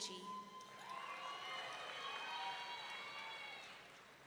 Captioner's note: audience cheering